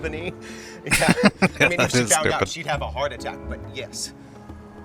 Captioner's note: laughing